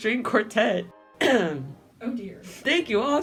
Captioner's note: clears throat